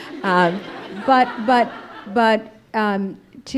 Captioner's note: audience laughing